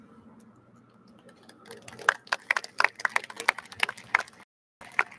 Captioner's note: audience applauds